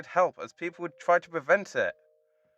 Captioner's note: none